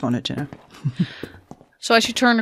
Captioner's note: footsteps continue